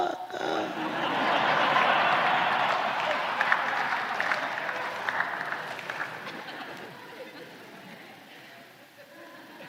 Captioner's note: laughter